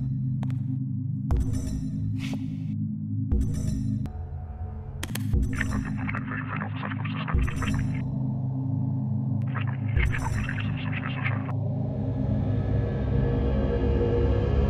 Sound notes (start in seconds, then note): 0.5 ominous music; 7.1 alien voice speaks